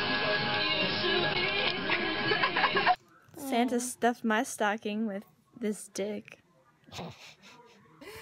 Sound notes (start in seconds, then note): 2.0 laughter; 6.8 chuckle